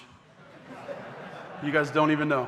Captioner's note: audience laughing